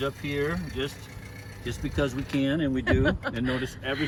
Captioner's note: laughs